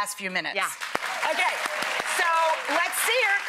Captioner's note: clapping